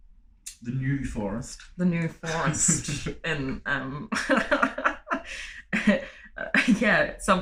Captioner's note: laughter